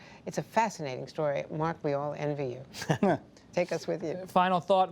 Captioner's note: laughter